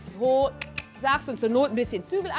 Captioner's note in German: Schnalzen